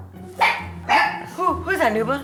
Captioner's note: knocking; dog barking